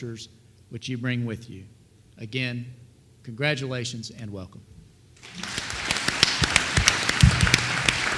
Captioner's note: applause